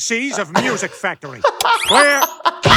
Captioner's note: laughing